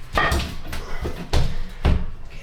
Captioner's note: banging